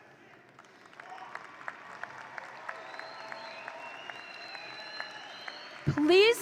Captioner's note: audience applauding and cheering